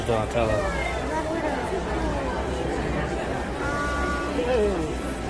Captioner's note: crowd chattering